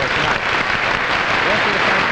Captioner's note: audience applauding